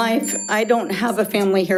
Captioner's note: bell dings